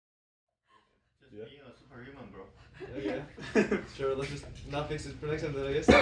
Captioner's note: laughs